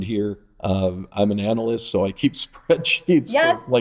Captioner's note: laughing